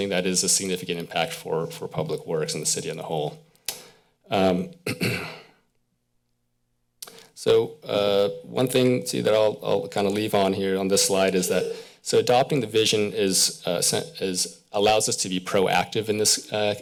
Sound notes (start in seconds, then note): 4.8 clears throat